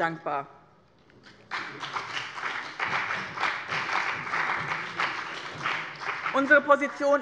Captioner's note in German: Beifall bei dem BÜNDNIS 90/DIE GRÜNEN und der CDU